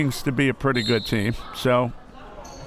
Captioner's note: whistle